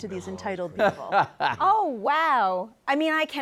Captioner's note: laughs